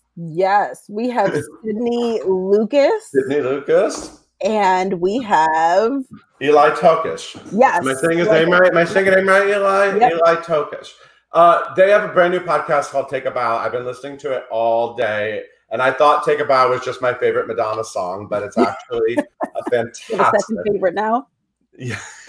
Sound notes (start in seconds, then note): 19.0 laughs